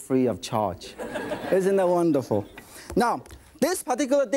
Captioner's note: audience laughing